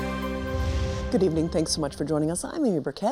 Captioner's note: graphics whooshing